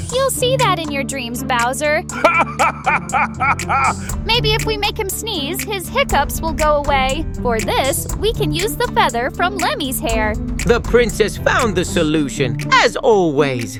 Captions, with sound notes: You'll see that in your dreams, Bowser! (Bowser Laughing) Maybe if we make him sneeze, his hiccups will go away. For this, we can use the feather from Lemmy's hair. The Princess found the solution, as always.